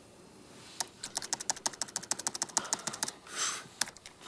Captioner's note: keyboard clicking